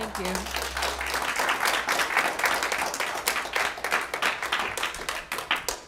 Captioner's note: applause